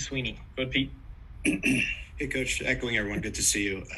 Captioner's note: cough